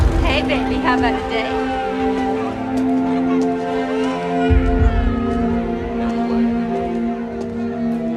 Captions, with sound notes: Hey, baby. How about a date? [baby crying]